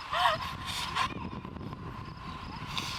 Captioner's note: continues crying